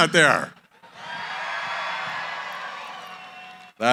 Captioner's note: cheering